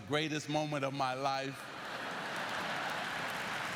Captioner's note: lauaughghteter